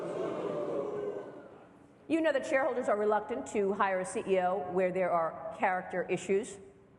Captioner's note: booing